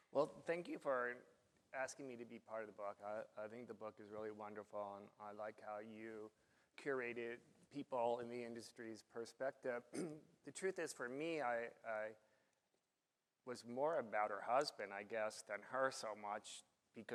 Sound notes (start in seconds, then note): 9.9 coughs